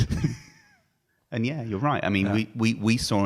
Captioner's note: laughing